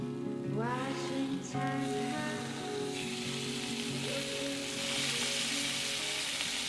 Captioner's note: fish sizzling